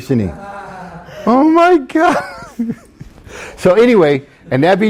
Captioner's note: students laughs; laughs